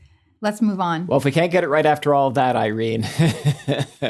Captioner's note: laughs